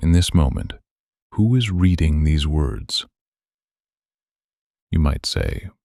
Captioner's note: pause